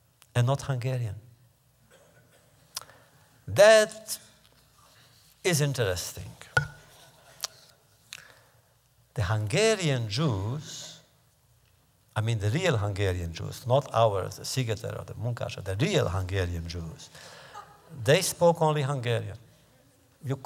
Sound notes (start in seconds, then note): 17.5 laughter